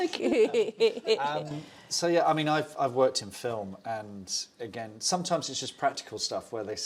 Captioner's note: laughs